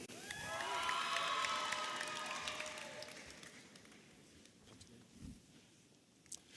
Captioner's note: audience applauding and cheering